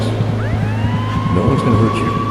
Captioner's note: police sirens blaring